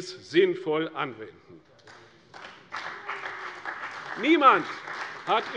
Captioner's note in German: Beifall bei der CDU und dem BÜNDNIS 90/DIE GRÜNEN